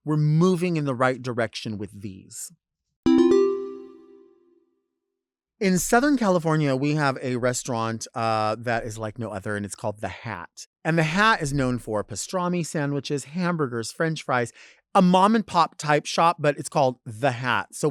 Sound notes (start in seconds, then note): 3.0 bell chiming